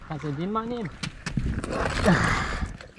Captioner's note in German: schnaufen